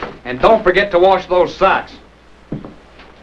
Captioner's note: none